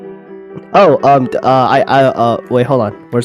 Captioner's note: stuttering